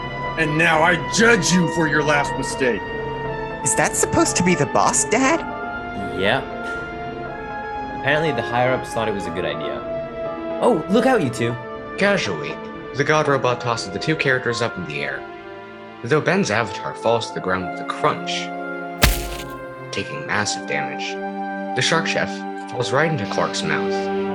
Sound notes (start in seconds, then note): 19.0 oddly satisfying crunch